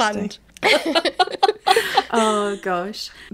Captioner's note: laughing